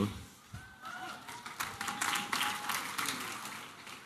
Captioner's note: applause and cheering